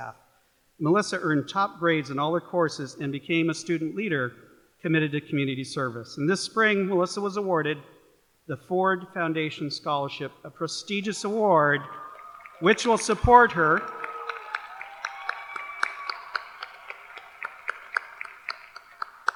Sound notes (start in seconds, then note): 14.4 applause